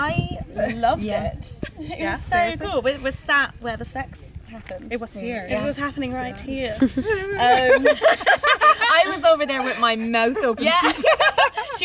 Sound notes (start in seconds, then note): 6.7 laughter